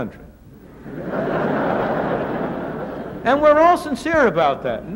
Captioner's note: laughter